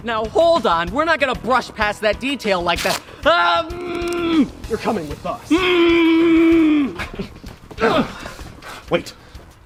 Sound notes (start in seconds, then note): 5.5 muffled screaming; 5.5 muffled scream